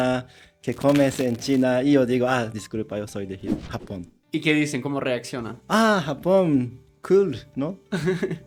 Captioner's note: laughter